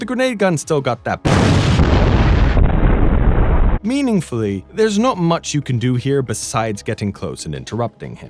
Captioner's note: boom